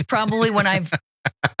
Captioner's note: laugh